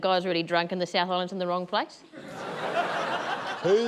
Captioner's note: laughter